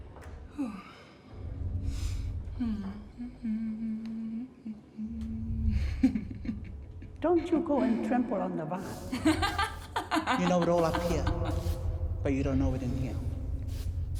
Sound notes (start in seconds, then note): 1.2 hums; 5.8 chuckles; 9.0 laughs